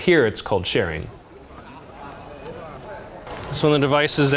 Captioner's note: people chattering